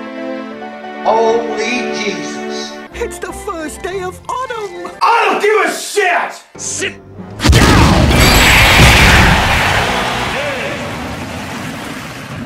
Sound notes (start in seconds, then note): 8.1 Super Smash Bros Sound Effects